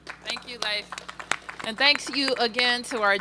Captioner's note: applause